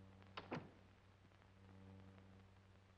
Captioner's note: door closes